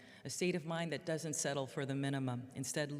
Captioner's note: none